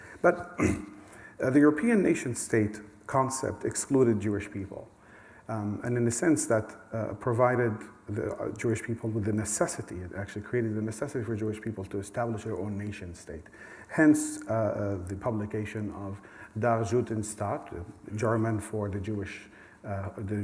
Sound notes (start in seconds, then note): 16.8 german